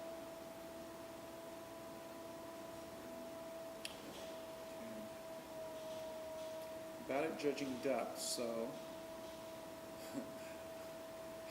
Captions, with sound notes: [ Whirring noise ] About judging depth, so...